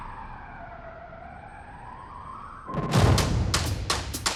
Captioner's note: distant sirens blaring; upbeat music